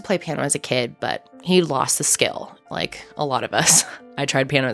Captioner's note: laughing